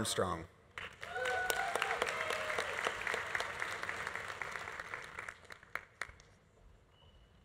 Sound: audience applauding; audience cheering

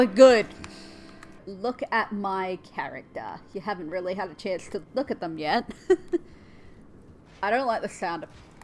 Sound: soft laughter

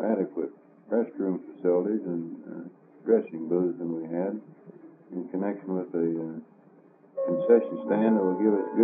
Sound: clock chimes

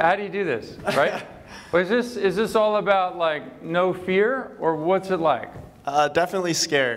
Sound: laughter

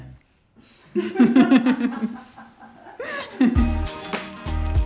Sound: laughs

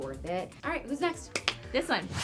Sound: claps

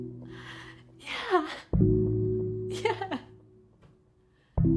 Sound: sniggers

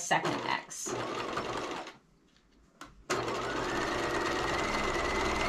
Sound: sewing machine clunking

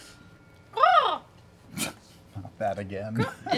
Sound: caws

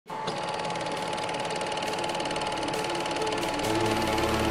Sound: projector whirring

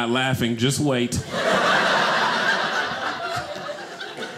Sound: audience laughing

